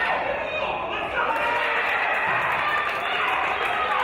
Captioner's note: applause